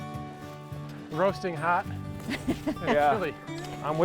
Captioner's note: laughing